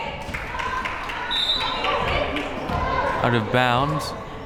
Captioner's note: whistle